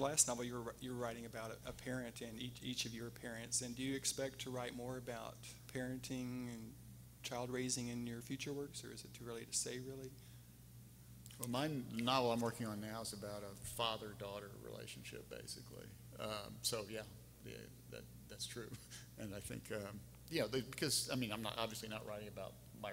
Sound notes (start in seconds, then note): 19.3 laughing